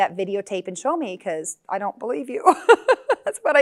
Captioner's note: laughs